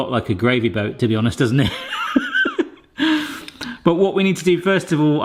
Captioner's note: laughs